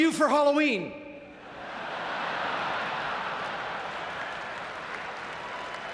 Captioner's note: audience laughing